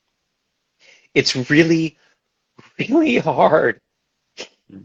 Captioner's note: voice cracks